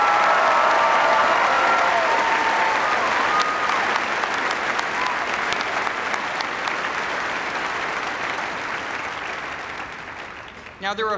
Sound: cheers and applause

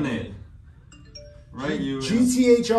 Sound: phone notification rings

